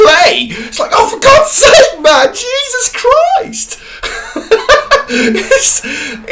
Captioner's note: laughing